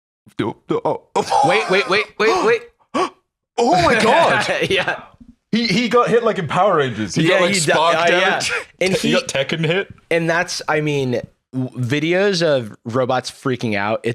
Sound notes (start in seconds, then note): 2.9 gasps; 4.6 laughs